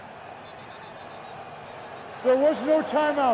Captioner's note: whistling